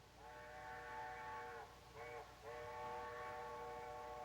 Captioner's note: faint train whistle